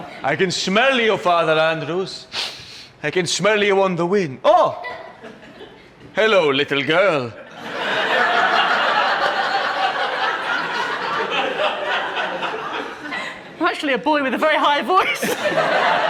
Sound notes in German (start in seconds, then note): 2.3 schnuppert